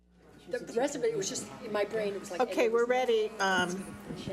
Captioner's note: chatting